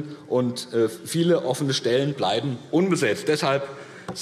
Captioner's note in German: none